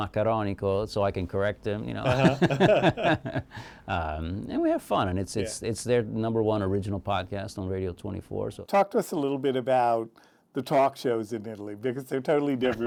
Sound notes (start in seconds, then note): 2.0 both laugh